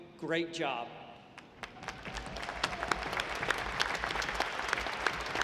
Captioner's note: audience applauding